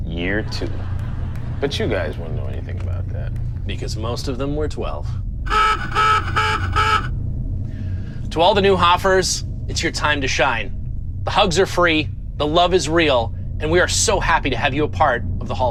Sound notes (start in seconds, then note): 5.4 horn beeping